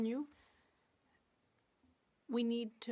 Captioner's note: speaking French